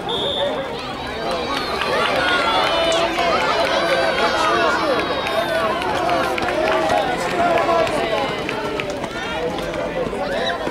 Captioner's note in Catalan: Xiulet; La gent anima